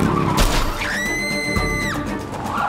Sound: shrieking

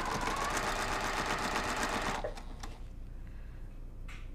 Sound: sewing machine resounding

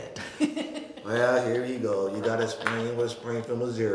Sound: laughing

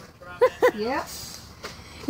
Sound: giggling

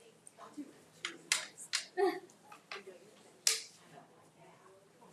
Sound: people chattering

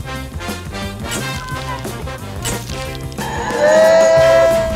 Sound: upbeat music; camera shutter snapping; groups cheering; tires screeching

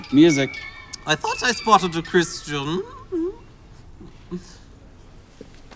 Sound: creepy voice

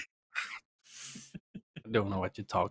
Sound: laughter

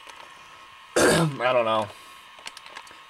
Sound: cough

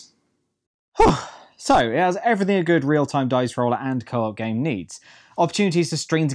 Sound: sigh

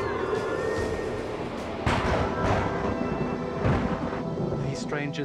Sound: thunder crashes

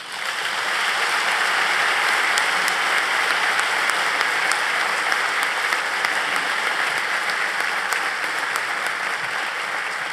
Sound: applause

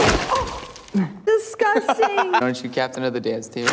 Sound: laughs hysterically

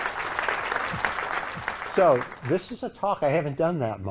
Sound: applause

